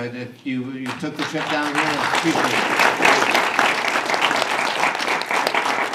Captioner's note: audience applause